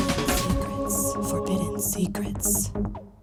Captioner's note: lady whispering "Forbidden Secrets"; lady whispering "secrets"; lady whispering "Forbidden Secrets"